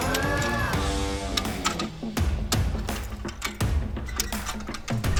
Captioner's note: gears clunking